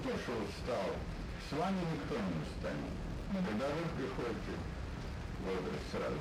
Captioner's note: couple speaking in Russian